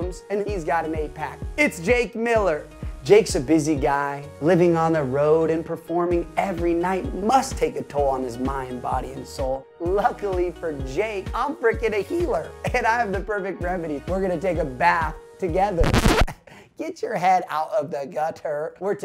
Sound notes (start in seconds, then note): 15.8 electronic scratching